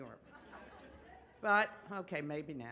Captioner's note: audience laughs